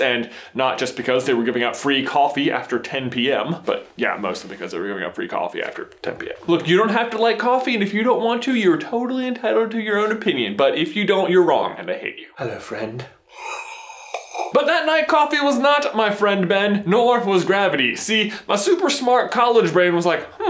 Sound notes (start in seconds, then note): 13.4 slurping